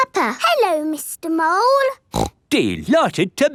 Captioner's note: snorts